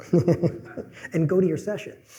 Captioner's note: laughter